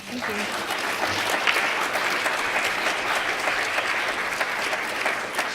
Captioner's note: applause